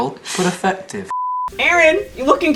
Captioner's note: beep